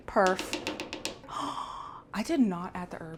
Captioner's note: gasp